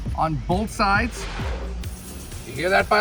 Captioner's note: air whooshing